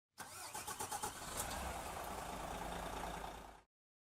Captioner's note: coach starts up